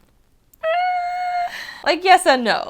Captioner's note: unsure sigh